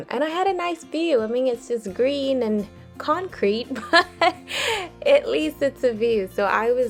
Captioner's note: laughs